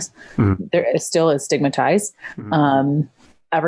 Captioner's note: stutters